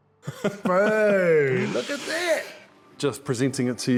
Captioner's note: chuckles